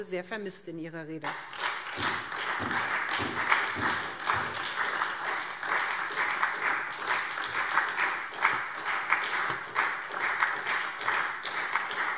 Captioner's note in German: Beifall SPD